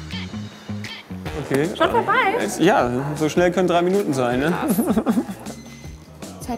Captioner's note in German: lachen